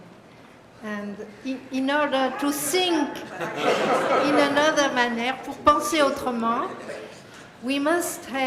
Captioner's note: french